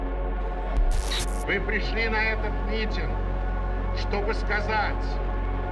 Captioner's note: person speaks in Russian